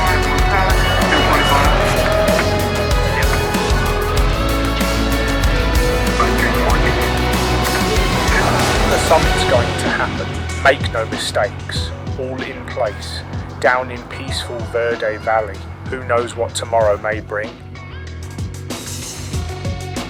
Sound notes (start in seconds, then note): 1.4 radio chattering; 1.4 upbeat music; 19.8 intense music